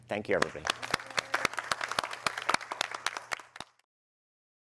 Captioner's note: applause